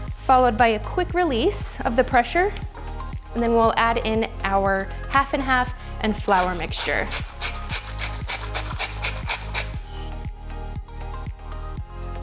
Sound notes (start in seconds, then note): 6.1 salt grinding